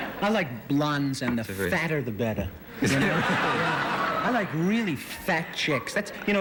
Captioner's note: laughter